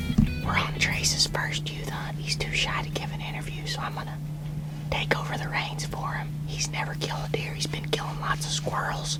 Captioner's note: whispering; whispering